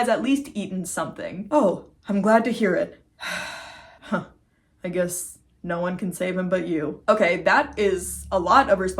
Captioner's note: sigh